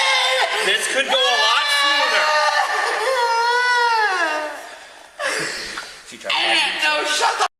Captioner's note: crying